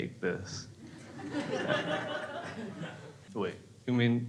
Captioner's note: crowd laughs